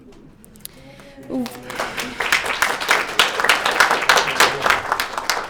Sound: audience applauding

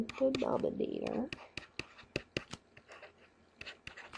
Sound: scribbling

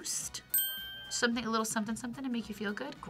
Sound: bell rings

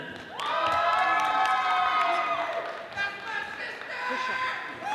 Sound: audience applauding

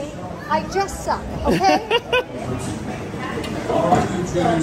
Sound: laughing

